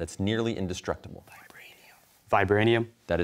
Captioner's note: whispers